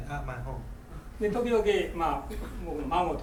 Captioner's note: speaking in foreign language; coughing